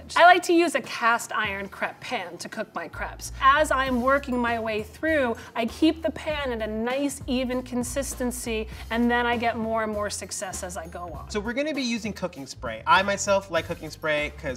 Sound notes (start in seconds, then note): none